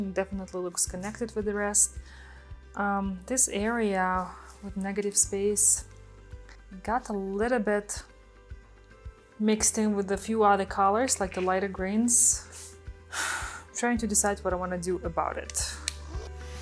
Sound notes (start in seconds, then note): 13.2 sighs